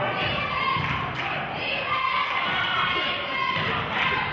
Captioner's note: clapping